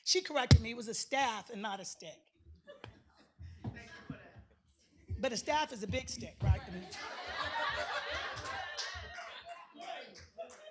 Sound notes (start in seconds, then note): 6.6 laughter